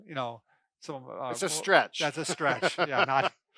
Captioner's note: laughs